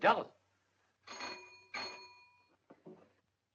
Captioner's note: doorbell rings